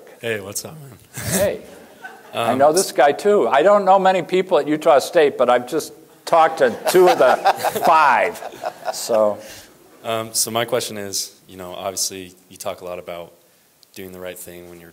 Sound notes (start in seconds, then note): 1.7 laughter